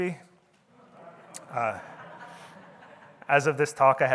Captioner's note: audience laughing